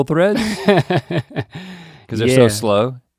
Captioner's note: Link chuckles